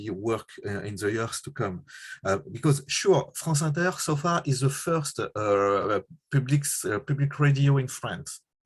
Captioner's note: french